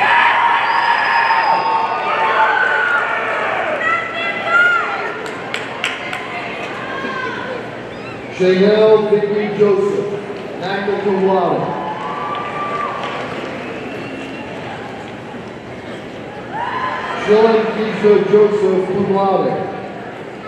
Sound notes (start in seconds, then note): 0.0 audience cheering; 11.4 audience cheers